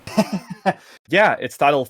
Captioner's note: laughs